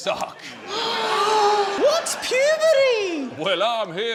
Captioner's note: gasps